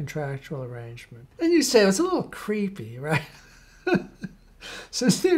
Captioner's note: laughs